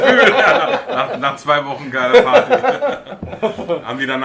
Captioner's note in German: lachen